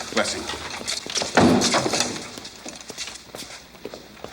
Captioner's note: head thuds